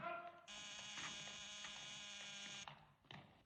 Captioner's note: doorbell Buzzes